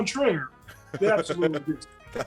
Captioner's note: laugh